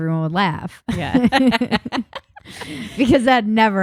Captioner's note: both laughing